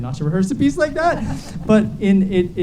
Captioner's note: audience laughs